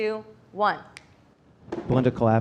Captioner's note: fingers snapping